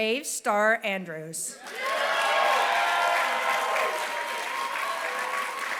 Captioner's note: applause